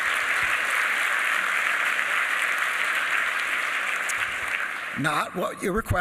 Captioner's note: applause